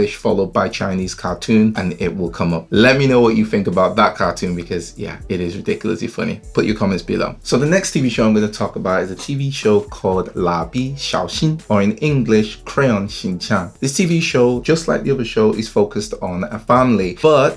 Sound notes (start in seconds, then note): 10.1 speaks in foreign language